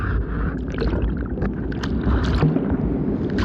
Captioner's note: crashing waves crescendo